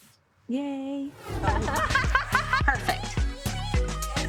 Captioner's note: laughing